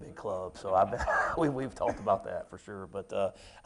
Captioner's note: chuckles